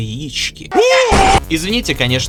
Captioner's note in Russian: Пожилые звуки и мои крики